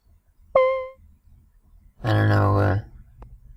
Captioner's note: beeping sound